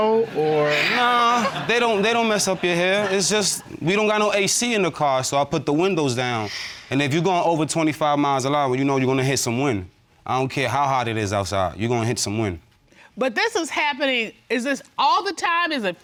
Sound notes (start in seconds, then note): 6.0 sighs